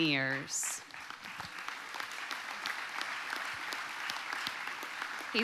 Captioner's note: audience applauding